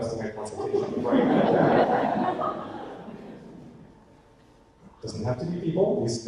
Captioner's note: audience laughter